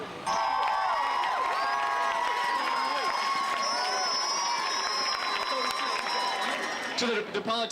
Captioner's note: cheering